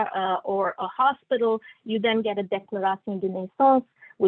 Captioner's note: non-english speech